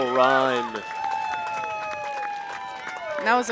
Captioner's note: cheering